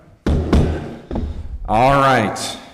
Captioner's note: gavel thuds